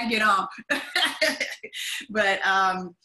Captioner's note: laughs